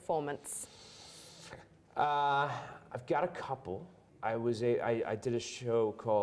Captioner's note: inhales deeply